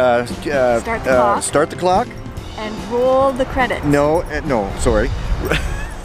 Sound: laughing

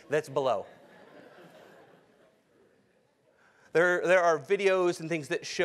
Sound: laugh

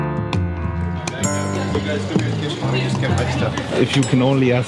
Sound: group sounds fade in

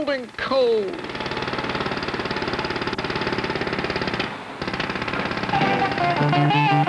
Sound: jackhammer; music, then a bus roars up

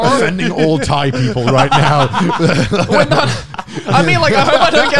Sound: laughing

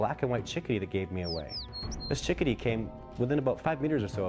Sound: voiceover

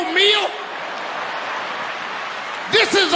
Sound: audience laughing

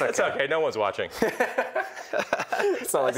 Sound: laughs

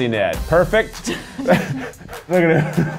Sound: both laugh; laughs

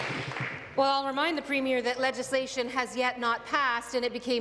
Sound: applause

